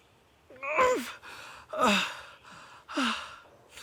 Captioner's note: Arawn groaning